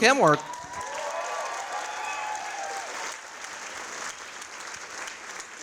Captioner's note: audience applauding